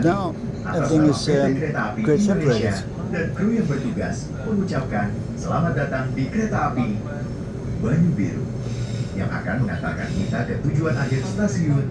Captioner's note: announcement in foreign language